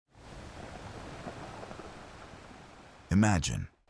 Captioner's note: wind Blowing